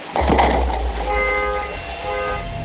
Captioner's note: loud crack; car alarm beeps